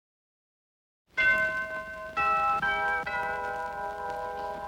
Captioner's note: doorbell rings